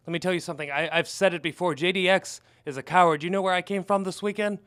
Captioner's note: none